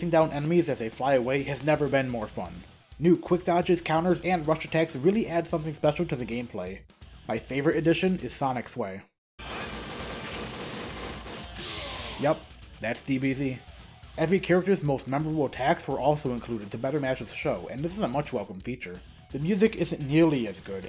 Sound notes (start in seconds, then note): 9.5 whooshing